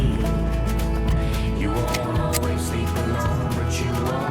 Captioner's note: gun clicks